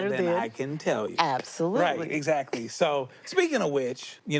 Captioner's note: laughs